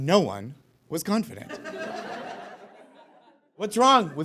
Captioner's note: audience laughs